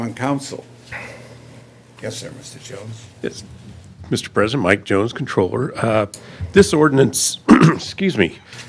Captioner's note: clears throat